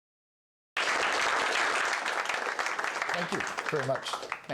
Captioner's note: applause